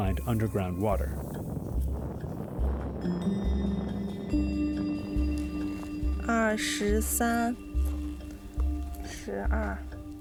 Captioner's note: speaking chinese